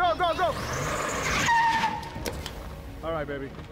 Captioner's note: tires squealing